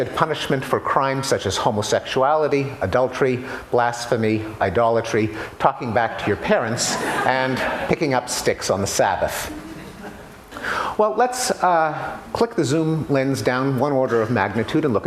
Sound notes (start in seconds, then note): 6.8 laughter